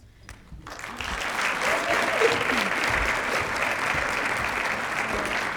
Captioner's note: applause